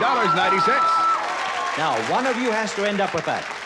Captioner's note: cheering and applause